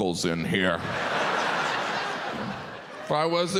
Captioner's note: audience laughs